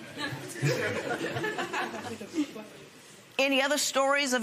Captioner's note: laughter